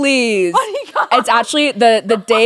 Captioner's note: laughing